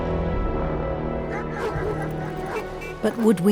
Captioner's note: solemn music; dog barks